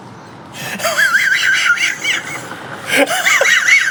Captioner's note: maniacal laughter